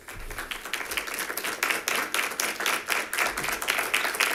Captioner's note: members clapping